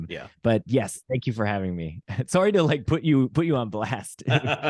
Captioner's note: polite laughs